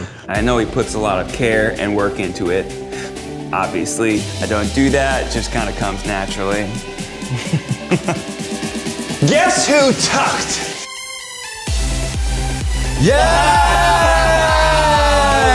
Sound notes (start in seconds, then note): 6.8 upbeat music; 7.2 laughs; 11.3 all cheering; 11.3 upbeat music